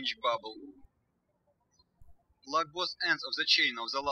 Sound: birds chirping

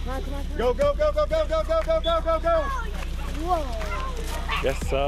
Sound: male Voice

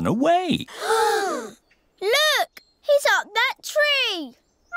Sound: all gasp

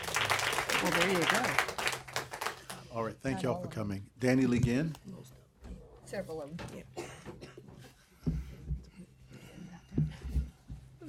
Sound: applause

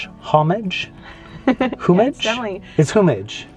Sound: chuckles

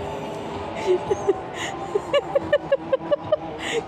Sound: laughs

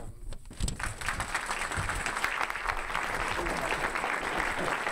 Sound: audience applauding

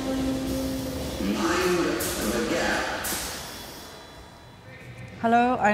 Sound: a horn sounds and a distant voice announces: Mind. The. Gap

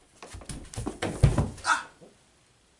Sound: thud

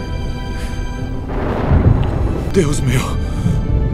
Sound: sound of thunder

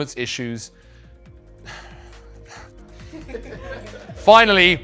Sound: laugh

